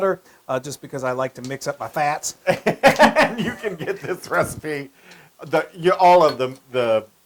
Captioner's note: laugh